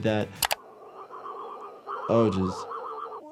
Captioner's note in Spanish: gorjeo estomacal